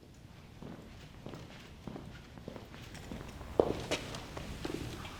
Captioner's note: footsteps approaching